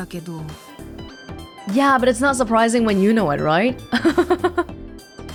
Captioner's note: chuckles